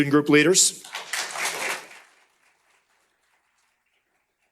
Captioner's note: applause